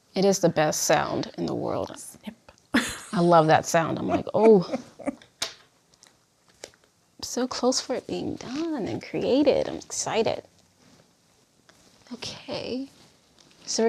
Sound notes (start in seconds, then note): 3.9 laughs